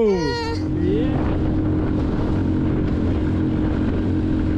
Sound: dinghy engine roars

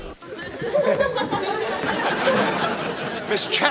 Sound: people laughing

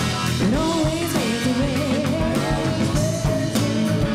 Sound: none

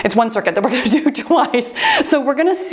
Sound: laughs

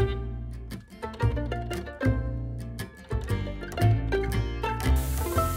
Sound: sound of waterfall

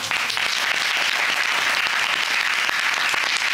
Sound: applauding

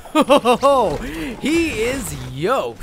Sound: laughter

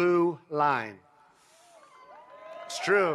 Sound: applause

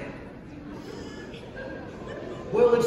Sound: gasps from Audience

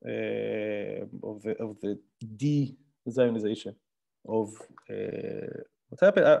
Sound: murmurs

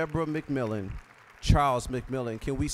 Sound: applause

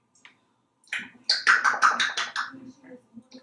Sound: smacking sounds

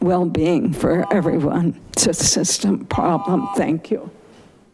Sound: buzzer chiming

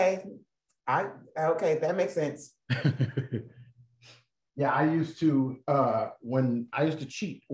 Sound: laughter

